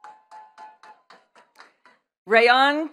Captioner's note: attendees clapping